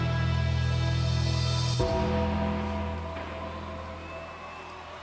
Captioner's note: bells tolling